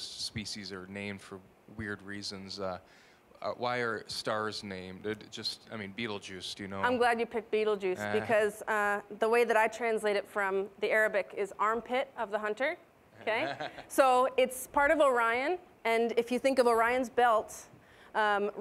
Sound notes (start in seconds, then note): 13.2 scattered laughing